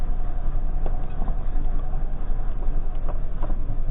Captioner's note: quiet buckling